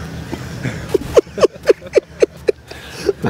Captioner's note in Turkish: Gülme sesi